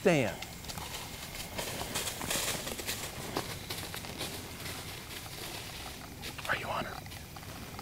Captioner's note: whispering